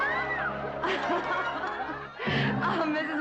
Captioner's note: laughing